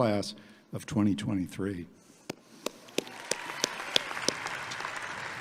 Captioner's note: audience clapping; claps